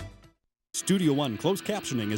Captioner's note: voiceover